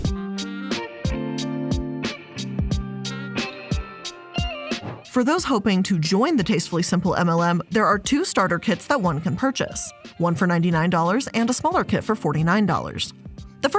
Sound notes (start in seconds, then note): 0.0 mellow music; 4.7 air whooshing